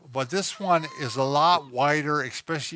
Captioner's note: wheezes